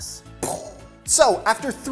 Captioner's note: explosion sound